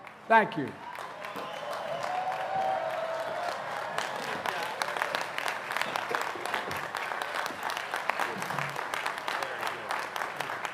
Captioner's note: applause